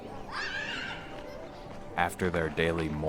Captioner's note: child screams